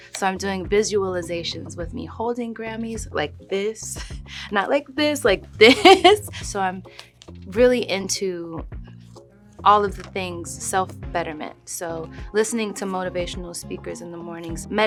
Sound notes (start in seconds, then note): 5.7 laughs